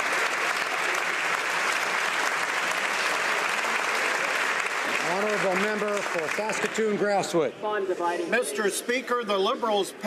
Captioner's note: some Applause